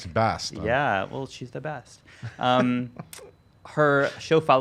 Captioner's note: chuckles